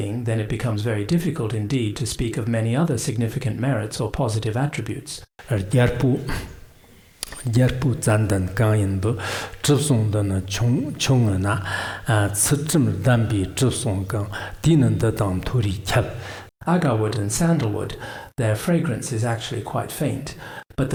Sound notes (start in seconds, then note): 5.4 giving oral transmission in Tibetan